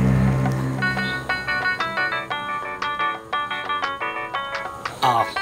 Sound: phone rings

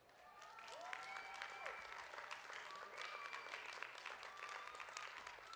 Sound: audience cheering and clapping

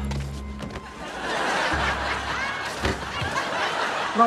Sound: dramatic music; laughs

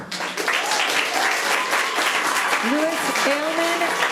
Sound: audience applauding

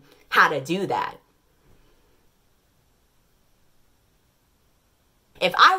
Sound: long, uncomfortable silence

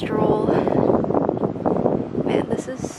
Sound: wind blows

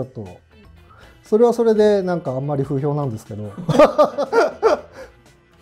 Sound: laughing

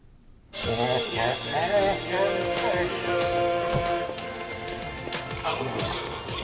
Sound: upbeat tribal music; dog groans

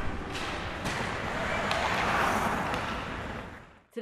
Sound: skates clashing

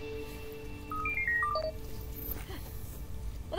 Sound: device beeping

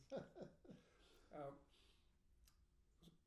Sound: laughing

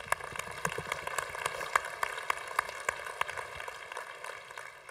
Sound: congregation applauding

